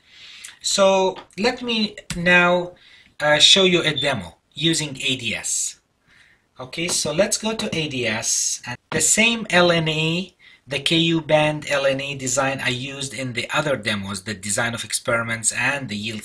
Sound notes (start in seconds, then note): 7.2 skip in tape